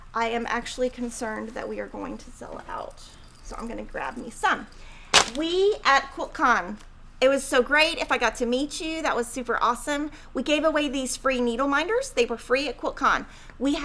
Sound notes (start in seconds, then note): none